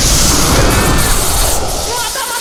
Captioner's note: panicked cries